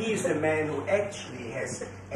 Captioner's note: laughter